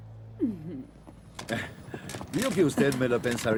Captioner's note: gasp